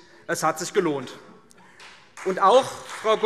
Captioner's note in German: Beifall CDU und BÜNDNIS 90/DIE GRÜNEN